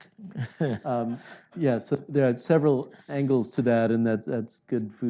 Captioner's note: laughs